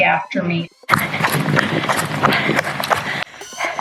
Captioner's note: panting. Rapid footsteps